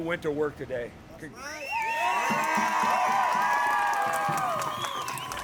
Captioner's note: crowd cheering